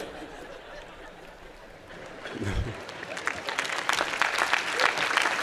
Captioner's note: laughter; applause